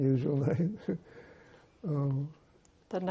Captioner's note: laughing